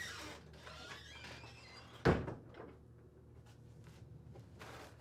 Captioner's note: door creaking